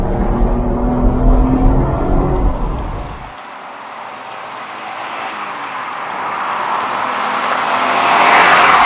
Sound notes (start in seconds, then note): 2.7 very high engine RPM